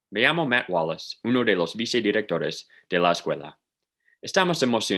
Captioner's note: speaking in Spanish